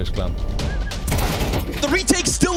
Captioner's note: gun firing